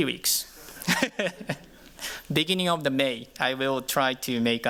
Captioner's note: chuckles